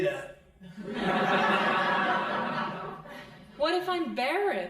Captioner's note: crowd laughing